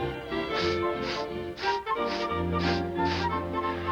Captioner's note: farmer sniffing